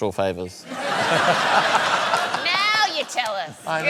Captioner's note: laughter